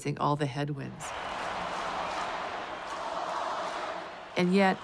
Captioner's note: chanting